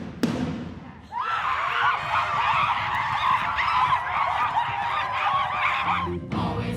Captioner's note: drum bangs; cast babbles